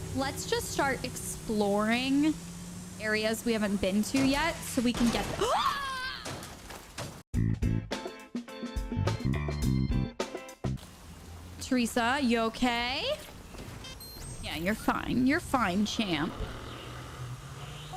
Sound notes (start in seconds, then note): 5.4 screaming; 7.4 light upbeat music